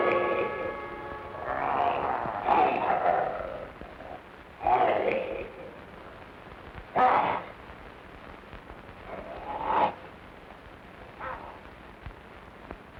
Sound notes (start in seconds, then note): 1.4 wolf growling; 4.6 wolfman snarling